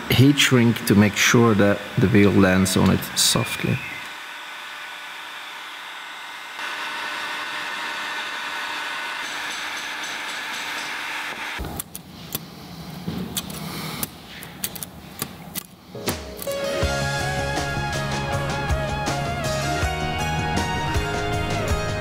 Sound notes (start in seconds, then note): 3.8 heat gun blowing; 11.8 marble gate clicking multiple times